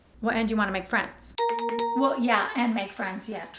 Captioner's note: ding ding, ding